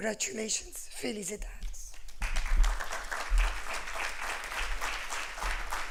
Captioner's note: applause